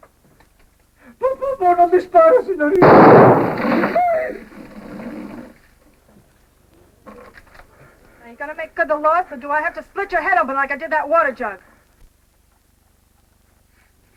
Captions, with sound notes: [SPEAKING SPANISH] [GUNSHOT] [MOANS] Now you gonna make good the loss, or do I have to split your head open like I did that water jug?